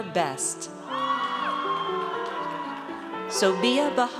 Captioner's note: audience cheers